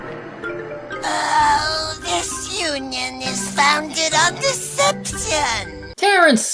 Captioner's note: groans